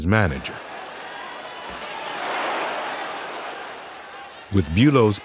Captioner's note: crowd shouting